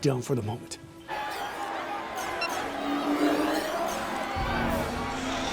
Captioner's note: crowd screaming